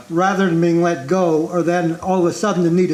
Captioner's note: none